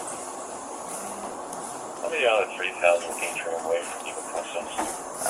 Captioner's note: radio chatter